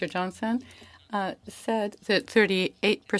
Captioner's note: speaking French